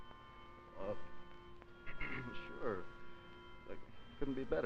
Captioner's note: clears throat